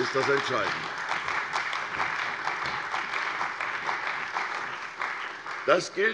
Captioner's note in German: Beifall bei der CDU und dem BÜNDNIS 90/DIE GRÜNEN